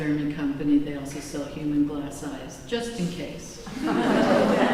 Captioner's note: laughter